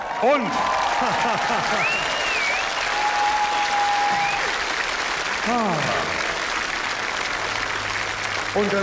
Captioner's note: applause